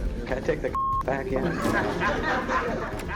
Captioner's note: laughter